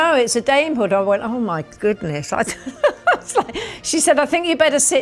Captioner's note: laughs